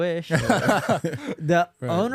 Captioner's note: men laughing